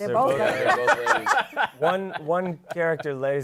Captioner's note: laughter